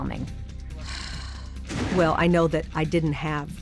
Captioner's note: sighs